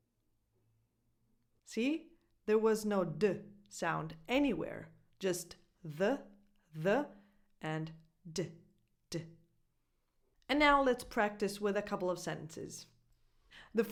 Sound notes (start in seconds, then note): 3.5 Italian